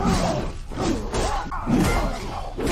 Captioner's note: grunting